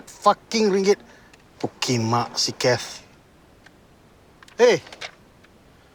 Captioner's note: speaking in foreign language